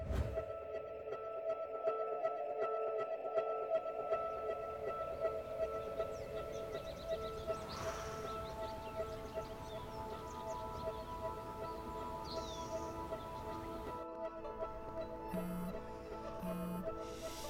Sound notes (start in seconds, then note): 3.9 birds chirp; 15.3 phone vibrates